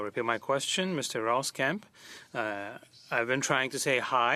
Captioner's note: speaking French